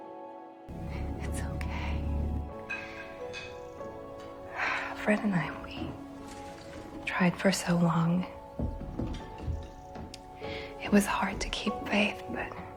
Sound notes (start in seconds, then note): 1.3 whispering; 3.8 exhaling